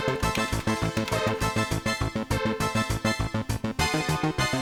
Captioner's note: keyboard clacking